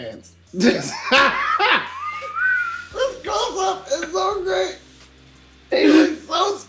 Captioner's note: laughs